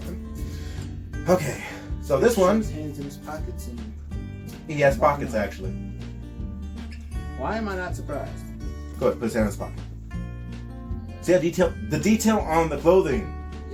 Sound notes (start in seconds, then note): none